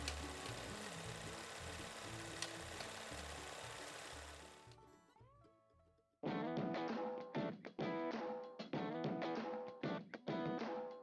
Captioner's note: film reel spinning